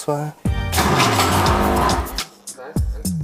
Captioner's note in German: Rattern, Dröhnen